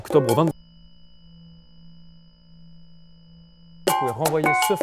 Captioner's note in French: silence